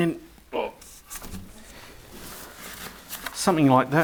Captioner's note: groaning